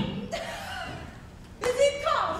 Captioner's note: Hortensio laughs